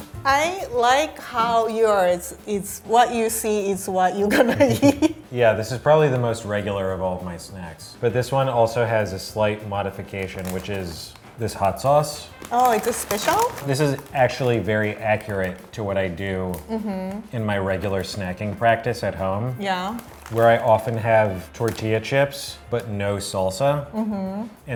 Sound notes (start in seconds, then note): 0.0 upbeat music; 4.3 laughing